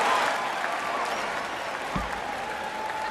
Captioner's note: cheering and applause